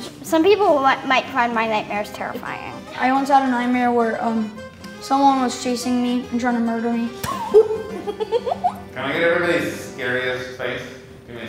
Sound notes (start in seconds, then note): 7.2 laughter